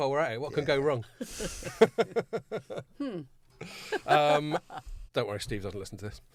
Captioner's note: laughing